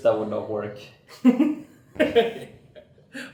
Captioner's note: laughs